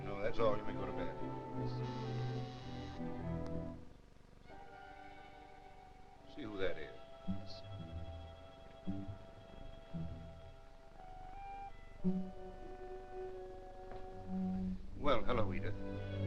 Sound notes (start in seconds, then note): 2.0 doorbell buzzing; 8.3 suspenseful music